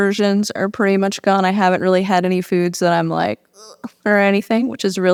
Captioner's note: gags